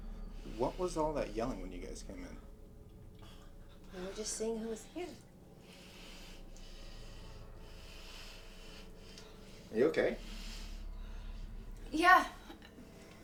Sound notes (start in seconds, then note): 7.3 inhaling deeply